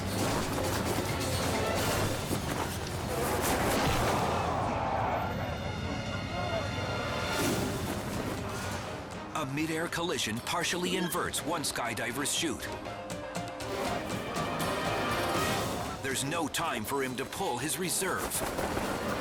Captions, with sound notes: (body slams) (crowd groans) A mid-air collision partially inverts one skydiver's chute. There's no time for him to pull his reserve.